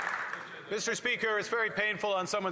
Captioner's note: some Applause